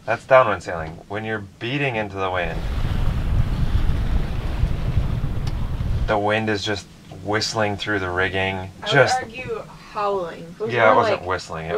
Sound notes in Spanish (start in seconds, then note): 2.2 viento que sopla